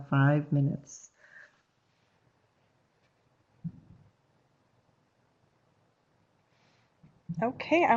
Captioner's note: no sound - waiting for questions